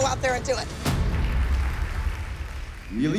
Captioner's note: applause